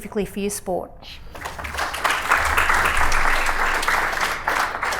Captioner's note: applause